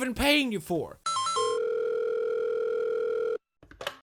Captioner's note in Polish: dźwięk nawiązywania połączenia